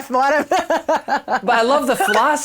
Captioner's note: laughs